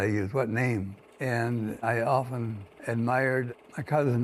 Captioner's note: projector hums and clicks